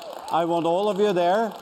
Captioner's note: applause